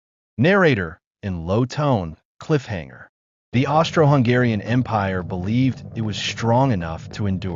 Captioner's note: in low tone, cliffhanger